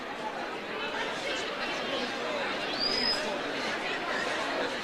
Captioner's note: overlapping chatter